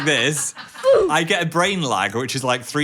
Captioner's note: "Oof" sound plays